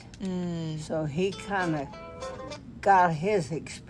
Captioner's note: brief cell phone music ringer plays